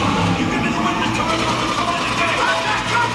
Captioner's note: characters yelling